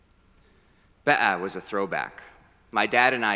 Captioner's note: foreign language